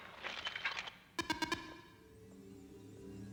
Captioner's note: beeping